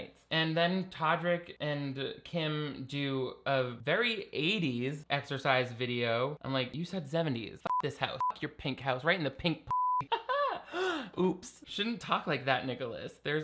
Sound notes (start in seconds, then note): 7.7 beeping; 9.7 beeping; 10.0 chuckling; 10.6 gasping